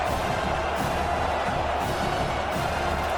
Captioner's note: crowd Noises